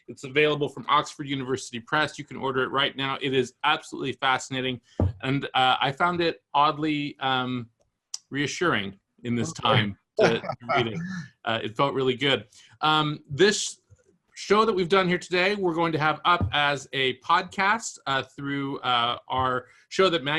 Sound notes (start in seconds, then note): 10.2 laughs